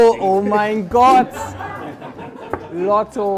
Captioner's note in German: Lachen